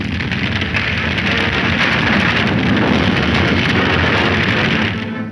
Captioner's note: fire blazes loudly